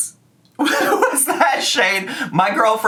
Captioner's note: laughs